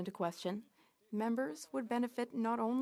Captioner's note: speaking French